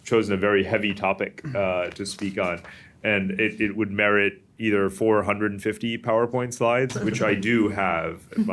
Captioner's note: laughter